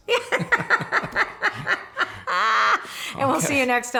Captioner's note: laughing